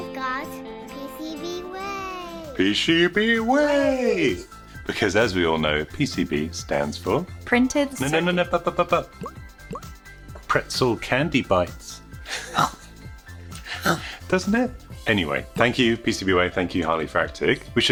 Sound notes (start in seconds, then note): 11.4 munching